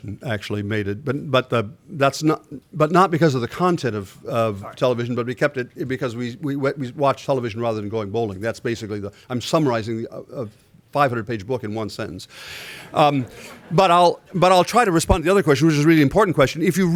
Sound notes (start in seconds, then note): 13.0 laughter